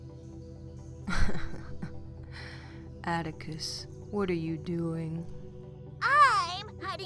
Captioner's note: laughs